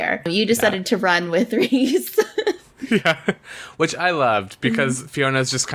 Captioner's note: laughs